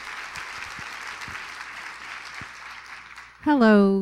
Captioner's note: applause